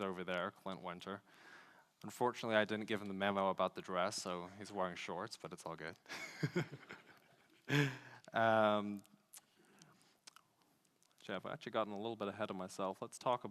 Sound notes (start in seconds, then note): 6.1 laughs